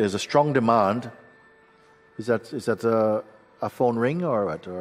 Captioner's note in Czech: zvuk zvonění